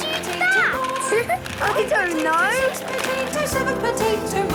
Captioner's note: laughing